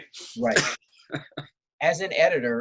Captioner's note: laughs